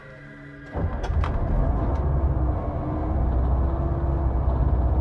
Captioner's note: dramatic music; bus engine starting